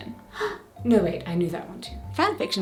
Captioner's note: dramatic gasp!